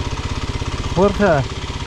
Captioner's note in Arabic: بالهولندية